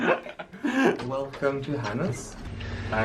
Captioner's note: laugh